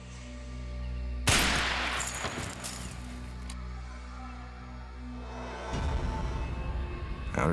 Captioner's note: glass shatters; gun bangs